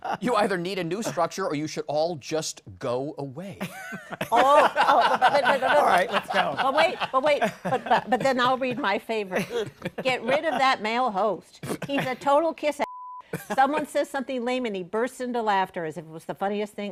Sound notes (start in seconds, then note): 3.6 laughter